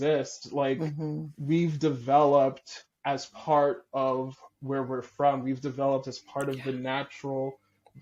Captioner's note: breathy